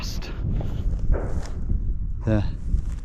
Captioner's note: clatter banging